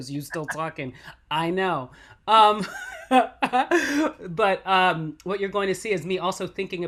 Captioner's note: laughs